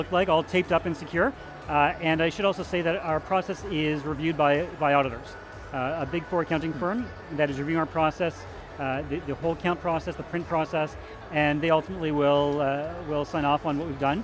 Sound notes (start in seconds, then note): none